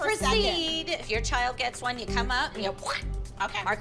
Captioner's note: squish noise